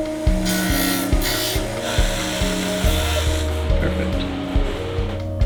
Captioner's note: machine whirring